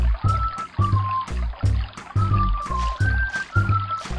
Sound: water flowing

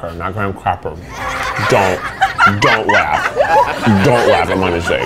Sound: children laughing

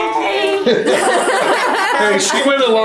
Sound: laughs in unison

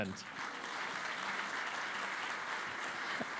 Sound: applause

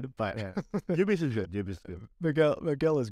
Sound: laughter

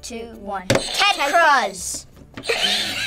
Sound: buzzer rings; buzzer rings

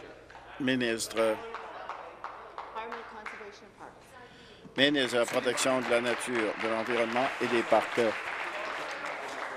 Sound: voice fading

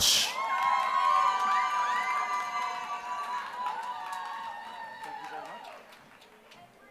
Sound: applause

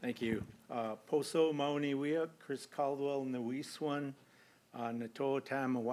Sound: non-english speech

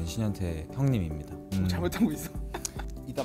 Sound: laughs

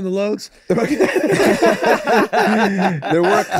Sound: all laughing

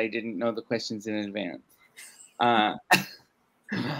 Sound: laughs

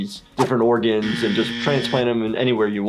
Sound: buzzer buzzing

